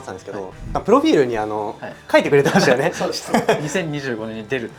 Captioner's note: laughs